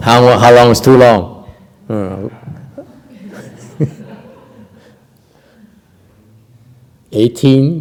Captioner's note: laughter